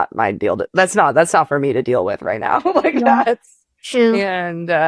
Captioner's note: laughs